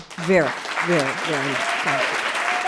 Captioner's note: audience applauding